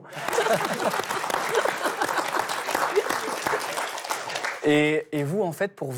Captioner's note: applause